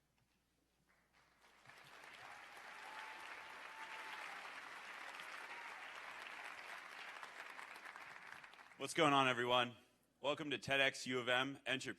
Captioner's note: applause